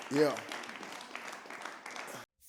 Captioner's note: audience clapping